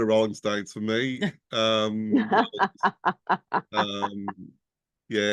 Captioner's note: laughing